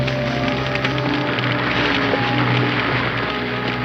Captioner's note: fire crackling